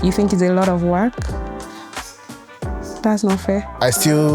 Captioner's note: whispers